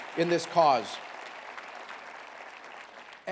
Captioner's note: applause